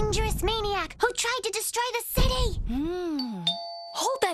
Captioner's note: doorbell rings